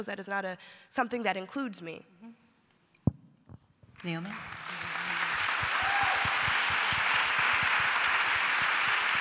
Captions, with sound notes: that is not something that includes me. [APPLAUSE]